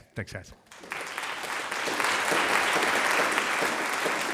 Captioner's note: audience applauding